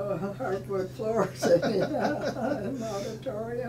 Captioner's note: laughing